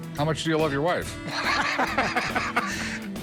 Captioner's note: laughs